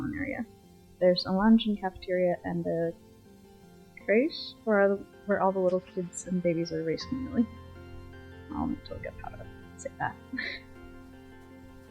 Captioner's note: laughs